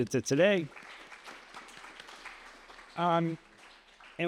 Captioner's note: applause